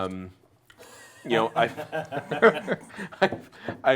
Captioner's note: laughing